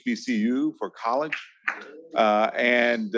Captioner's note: attendees member clapping